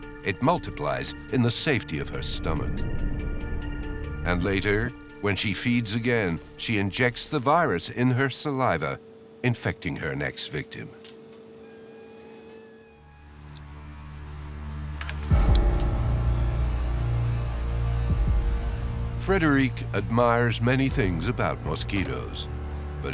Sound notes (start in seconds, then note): 11.6 mosquito buzzing; 11.7 eerie music